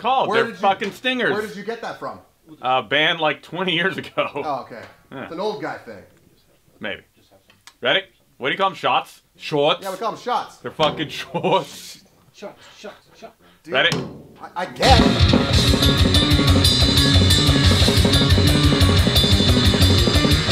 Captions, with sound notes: called, they're fuckin' stingers! - Where did--where did you get that from? - A band like, 20 years ago. - Ah, okay. So it's an old guy thing. - Maybe. Ready? What do you call them, "shots?" "Shots?" - Yeah, we call them shots. - They're fuckin' "shots"? [LAUGHS] - Shots, shots, shots! - Ready? - I--I guess! [METRONOME PULSING TO TRACK]